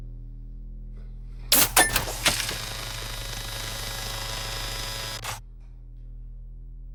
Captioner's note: machine clanks; currents buzzing